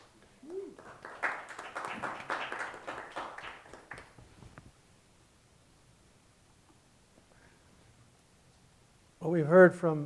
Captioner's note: applause